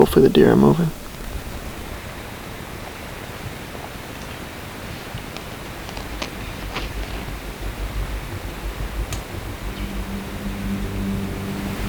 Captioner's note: sound of wind in leaves